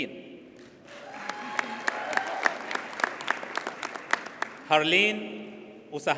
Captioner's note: audience cheers and applauds